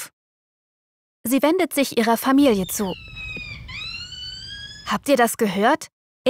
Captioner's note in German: Affenrufe